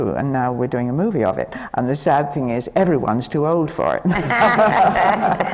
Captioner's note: laughter